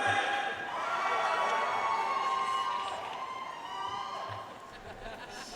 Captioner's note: audience cheering and applauding